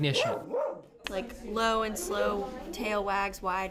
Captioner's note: dog barks